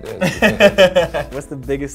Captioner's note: laughs